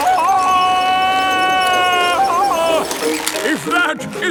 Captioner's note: yelling